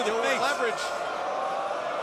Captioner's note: crowd cheering